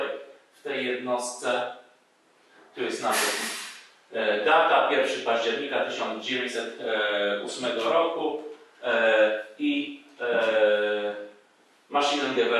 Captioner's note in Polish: po niemiecku